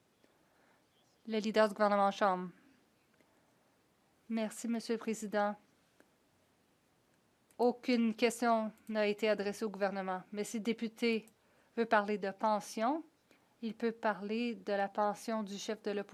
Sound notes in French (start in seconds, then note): 9.3 voix de l'interprète